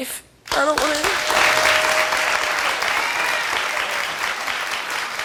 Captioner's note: crowd cheering and clapping